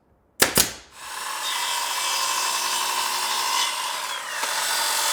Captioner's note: whirring